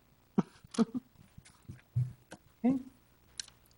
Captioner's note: giggles